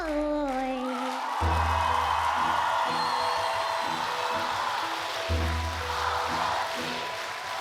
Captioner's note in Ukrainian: оплески